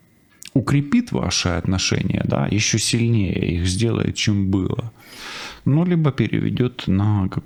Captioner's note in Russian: фыркает